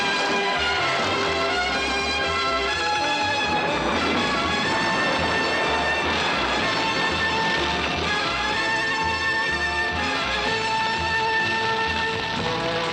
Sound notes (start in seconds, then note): 2.7 explosion